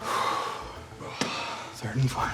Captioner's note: sighs